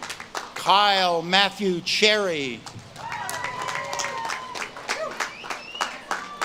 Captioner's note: audience claps and cheers